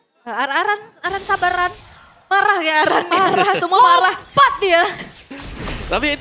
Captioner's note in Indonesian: tertawa